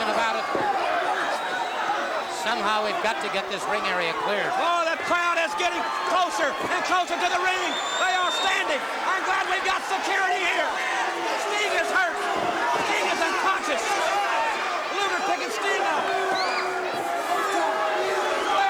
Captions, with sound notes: ABOUT IT. >> SOMEHOW, WE'VE GOT TO GET THIS RING AREA CLEAR. >> OH, THE CROWD IS GETTING CLOSER AND CLOSER TO THE RING. THEY ARE STANDING. I'M GLAD WE GOT SECURITY HERE. >> [CROWD CHEERING] >> STING IS HURT. STING IS UNCONSCIOUS. LUGER PICKING STINGER UP. >> [CROWD CHEERING]